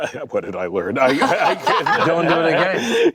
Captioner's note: laughter